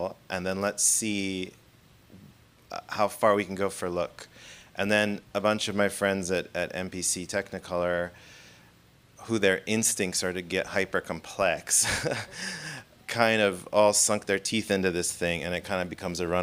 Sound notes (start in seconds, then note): 11.8 laughing